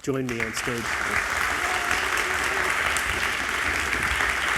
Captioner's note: crowd clapping